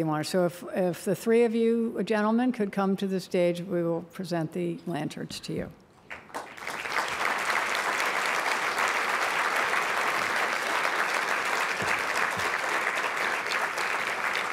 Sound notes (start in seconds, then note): 6.0 applause